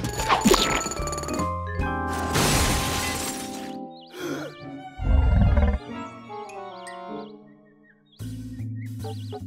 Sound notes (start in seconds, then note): 2.2 crash; 3.1 wheezes; 5.1 tummy grumbling